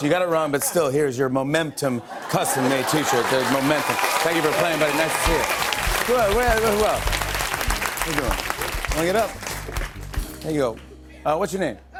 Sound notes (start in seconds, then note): 3.2 cheers and applause; 6.8 applause